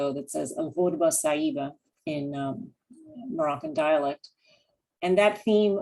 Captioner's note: non-english